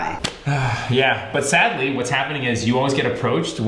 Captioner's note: sighs